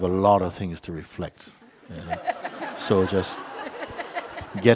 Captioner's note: laughter